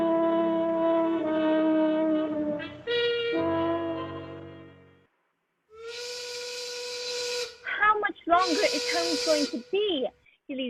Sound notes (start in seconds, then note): 0.0 musical accent; 5.8 factory whistle